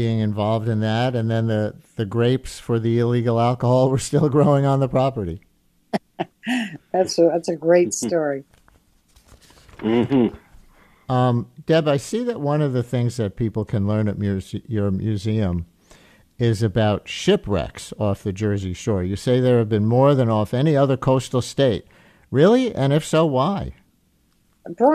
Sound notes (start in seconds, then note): 9.8 chuckles